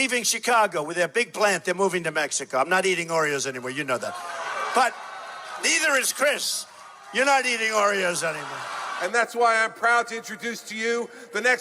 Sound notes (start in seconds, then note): 5.0 crowd clamoring; 9.6 crowd laughing